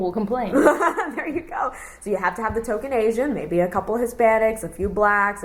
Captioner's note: laughs